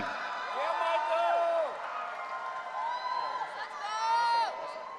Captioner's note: audience cheering